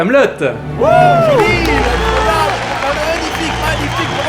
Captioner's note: cheering